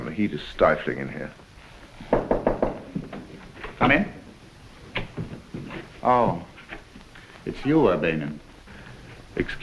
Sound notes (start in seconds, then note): 2.0 door knocking